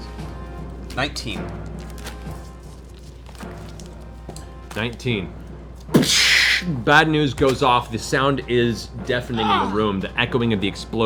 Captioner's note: gunshot